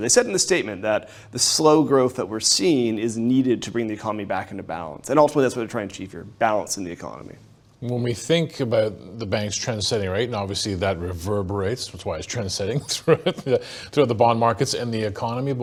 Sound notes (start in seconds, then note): 12.7 laughs